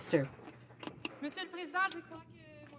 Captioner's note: some Applause